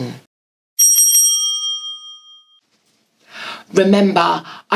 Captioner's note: ringing